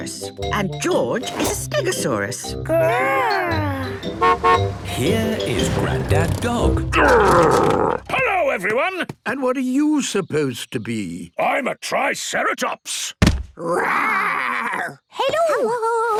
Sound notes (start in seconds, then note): 3.8 horn honking; 13.2 thudding